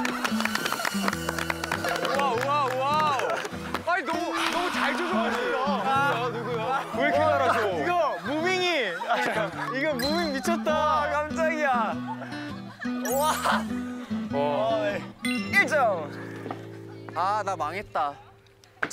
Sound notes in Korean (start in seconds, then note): 9.8 웅성 웅성